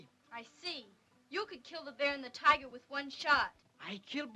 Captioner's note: none